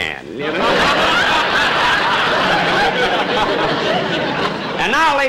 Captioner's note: audience Laughing